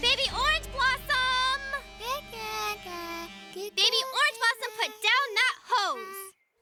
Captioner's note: babbling